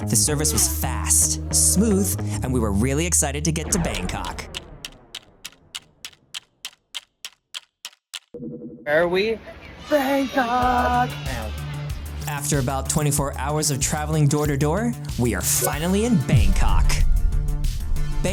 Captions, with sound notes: The service was fast smooth and we were really excited to get to Bangkok. [Ticking clock sound] Where are we? Bangkok! After about 24 hours of traveling door to door we are finally in Bangkok.